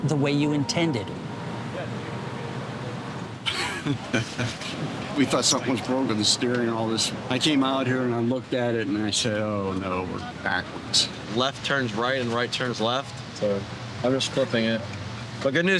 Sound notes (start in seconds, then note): 3.4 laughs